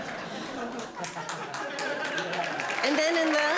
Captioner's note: audience clapping